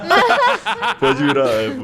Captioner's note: laughter